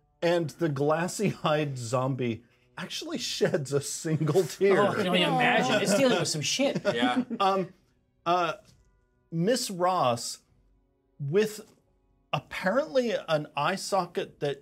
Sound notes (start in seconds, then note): 6.6 speaker laughs